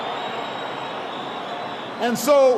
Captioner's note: applause